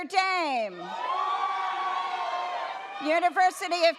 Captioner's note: audience cheers